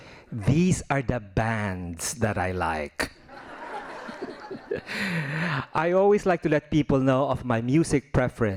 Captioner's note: laughing